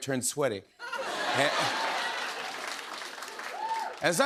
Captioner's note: laughter